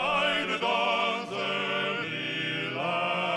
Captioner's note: speaking French